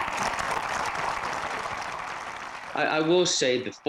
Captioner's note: applause